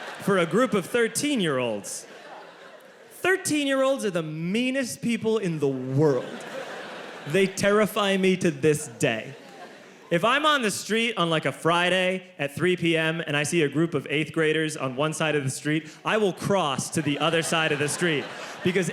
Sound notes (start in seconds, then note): 6.0 audience laughs